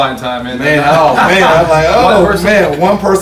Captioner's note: all laugh